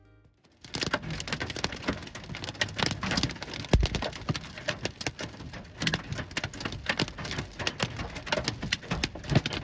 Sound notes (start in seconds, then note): 0.5 hailstones clattering